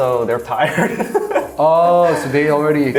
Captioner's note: laughing